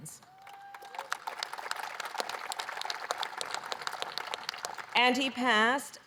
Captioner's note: applause